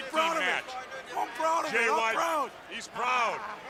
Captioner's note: crowd chatter